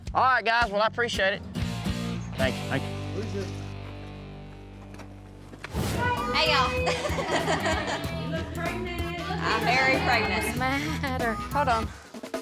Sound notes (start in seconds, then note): 6.8 laughter